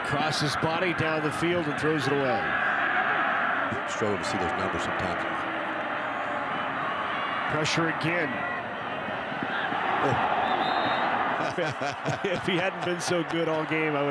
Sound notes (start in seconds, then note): 9.5 fans cheer; 10.1 referee blows whistle; 11.3 chuckles